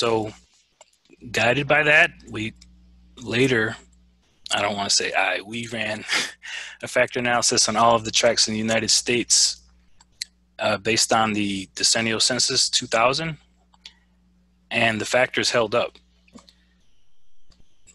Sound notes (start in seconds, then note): 6.0 laugh